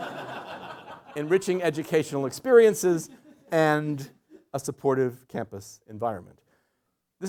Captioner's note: laughter